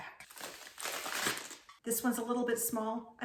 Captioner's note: lettuce snapping